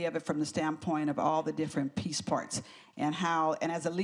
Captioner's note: none